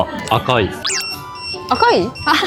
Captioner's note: ※呼び出しアラーム